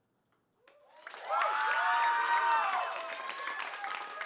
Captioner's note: applause